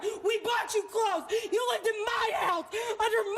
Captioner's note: none